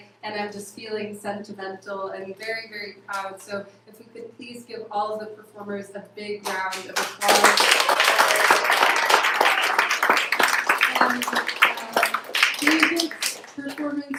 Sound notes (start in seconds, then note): 6.4 applause